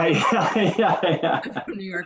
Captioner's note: chuckles